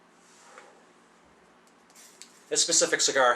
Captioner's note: cigar tapping